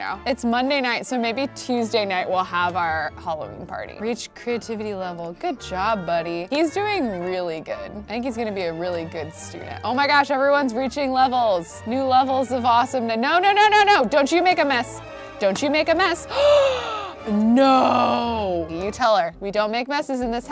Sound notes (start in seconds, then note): 16.2 gasping